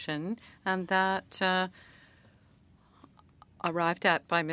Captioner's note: speaking French